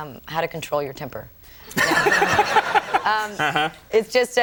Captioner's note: everyone laughing